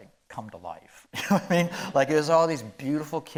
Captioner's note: chuckling